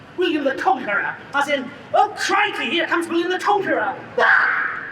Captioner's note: scream